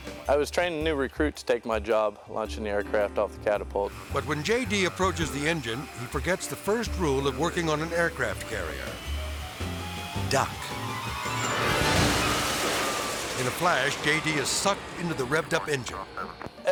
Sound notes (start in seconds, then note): 12.3 engine explodes